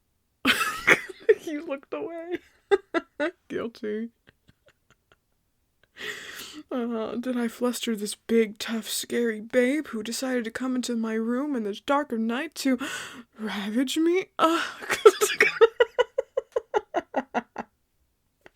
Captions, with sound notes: [More giggles of enjoyment] You looked away~! Hahah, guilty~ uh huh, did I fluster this big tough scary babe who decided to come into my room in the dark of the night to [dramatic gasps] Ravage me~? (fake moan sound before he can't with himself and laughs more.)